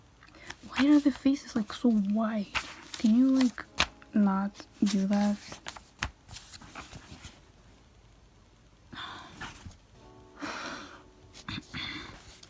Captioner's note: rolls eyes and sighs